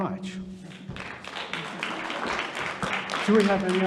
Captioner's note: audience applauding